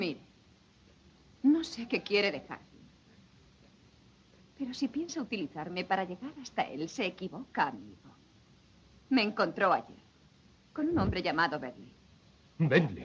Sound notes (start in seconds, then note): none